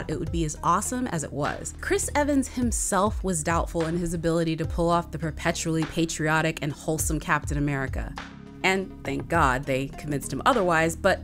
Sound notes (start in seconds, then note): none